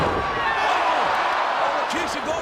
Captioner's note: audience gasping